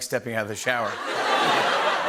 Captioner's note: laughter